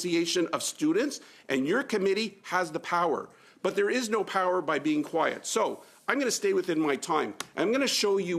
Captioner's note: speaking French